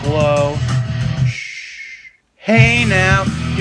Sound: shhhhh

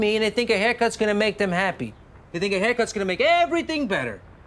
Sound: none

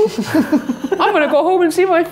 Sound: laughing

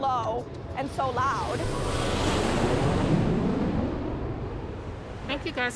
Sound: jet engine roaring

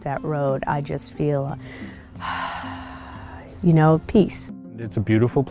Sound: deep breathing

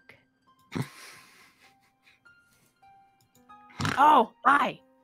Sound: laughs

